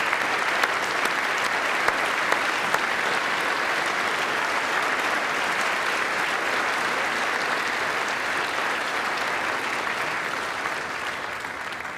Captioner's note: applause